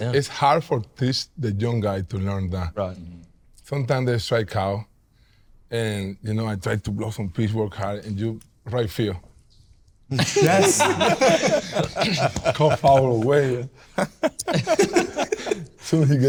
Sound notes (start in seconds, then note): 10.1 all laughing; 13.9 more laughter